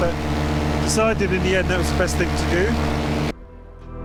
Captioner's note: none